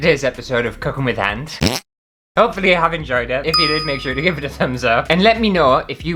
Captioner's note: fart